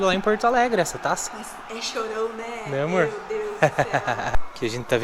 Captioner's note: laughs